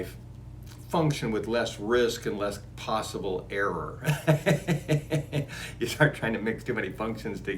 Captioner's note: laughs